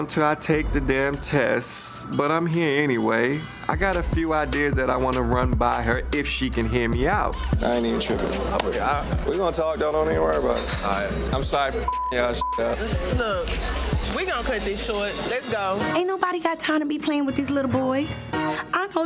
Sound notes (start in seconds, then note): 8.4 hands clapping; 11.8 beep